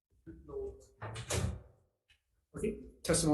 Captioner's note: door bangs